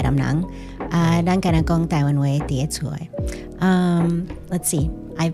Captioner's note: Taiwanese